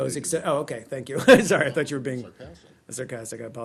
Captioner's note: laughter